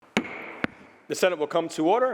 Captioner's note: gavel bangs